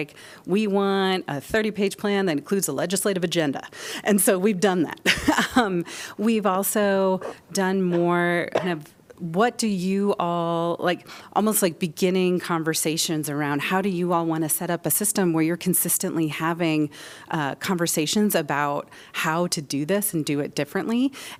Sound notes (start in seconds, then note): 5.0 laughter